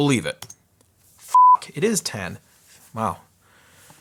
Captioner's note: beep